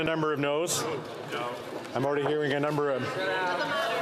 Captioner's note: speaking French